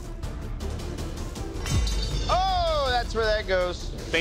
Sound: blade clatters

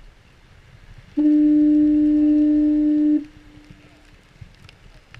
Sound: foghorn blaring

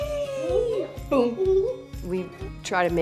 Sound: giggling

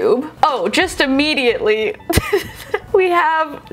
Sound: laughing

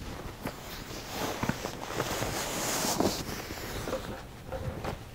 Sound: sheets rustling

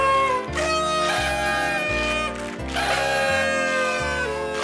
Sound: blowing horns

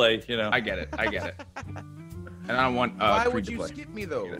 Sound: laugh

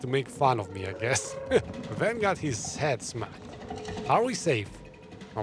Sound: laughs

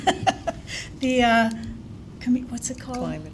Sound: laughs

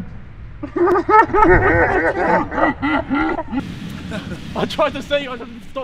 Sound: laughing in slow motion

